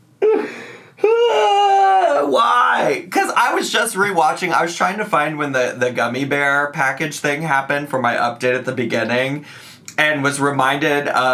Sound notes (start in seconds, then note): 1.0 groans